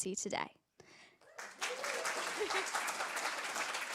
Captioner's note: applause